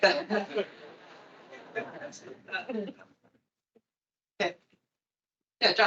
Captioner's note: attendees laughing